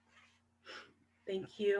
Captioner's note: sighs